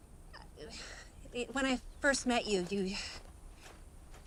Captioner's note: sighs